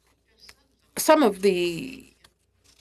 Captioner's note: speaking French